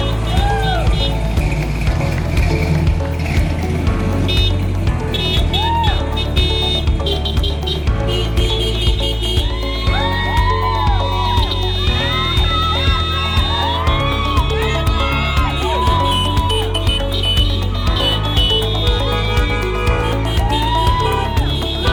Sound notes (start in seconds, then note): 0.1 horns honking; 0.5 car chugging; 9.5 crowd cheering; 12.4 crowd; 16.4 crowd cheering; 19.2 horns honking